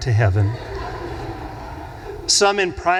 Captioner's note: audience laughs